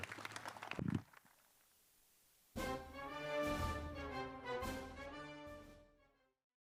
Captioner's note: applause